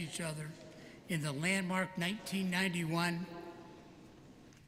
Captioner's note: none